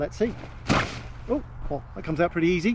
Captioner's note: fabric swishing